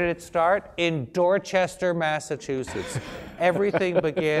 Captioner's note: laugh